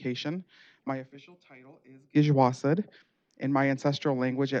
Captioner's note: speaking Native language